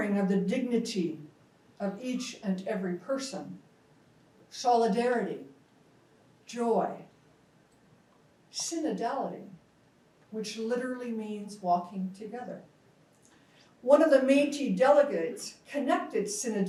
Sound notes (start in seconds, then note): 5.6 speaks in foreign language